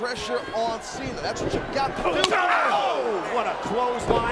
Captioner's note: hit smacking